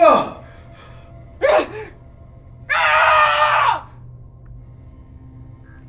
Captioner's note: breathing heavily; Wilhelmina yells